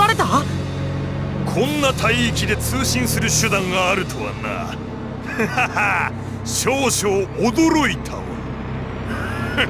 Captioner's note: laugh; chuckle